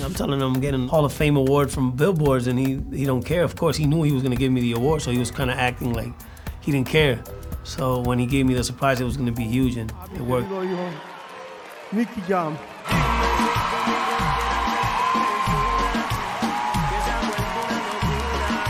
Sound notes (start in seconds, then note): 11.5 speaking spanish; 12.7 cheering